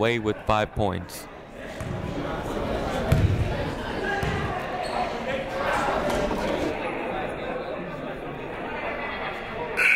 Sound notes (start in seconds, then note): 3.1 people talking in the crowd